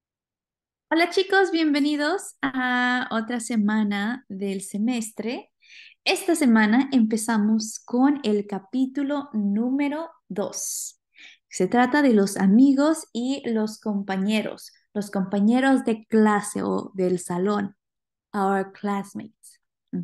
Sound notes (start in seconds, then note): 2.0 speaking spanish